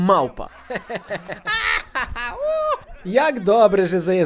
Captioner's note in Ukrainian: Сміх